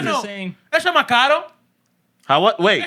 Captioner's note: speaking Spanish